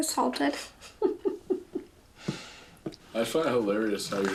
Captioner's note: chuckling